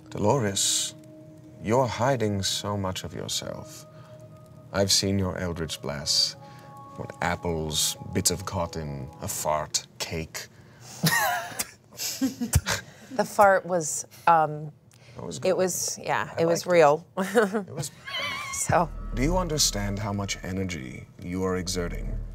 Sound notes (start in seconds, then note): 10.9 everyone laughs; 17.7 laughs